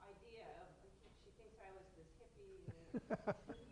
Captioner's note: laughs